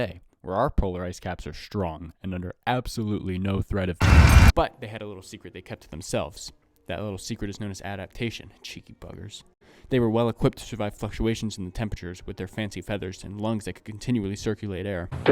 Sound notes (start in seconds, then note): 4.0 fire and screaming